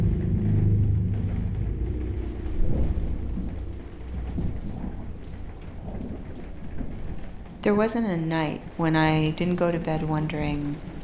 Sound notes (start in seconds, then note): 0.2 rain pattering; 1.6 thunder rumbling